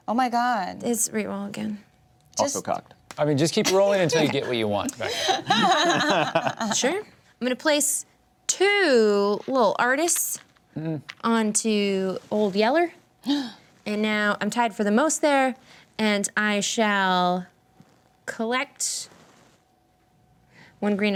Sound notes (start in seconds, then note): 6.3 laughs; 13.2 gasps